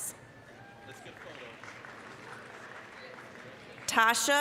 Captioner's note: applause